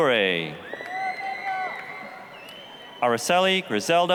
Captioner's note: applause, cheering